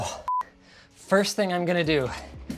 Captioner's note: beeping